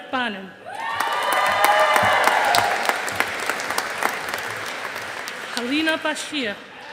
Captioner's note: audience applauding